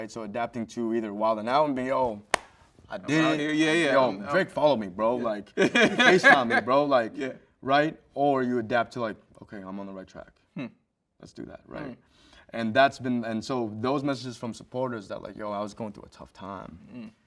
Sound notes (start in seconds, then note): 2.3 hands smack; 5.6 host laughs